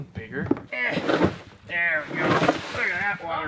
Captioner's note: grunts